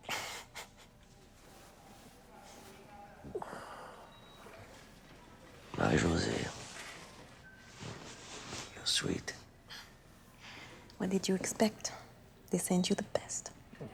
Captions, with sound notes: (Marie-Josee chuckles) (muffled speaking over intercom) Marie-Josee. You're sweet. - What did you expect? They sent you the best.